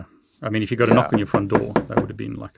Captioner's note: knuckles rapping